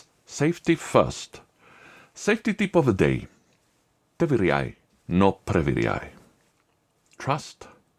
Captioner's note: russian words